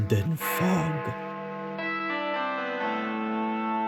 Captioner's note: bells Tolling